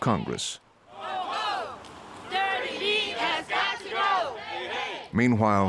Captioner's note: \crowd chanting\